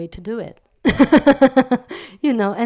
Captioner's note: laugh